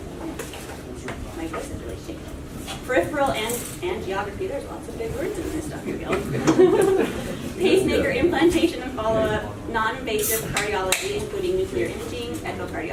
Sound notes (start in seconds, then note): 6.1 laughs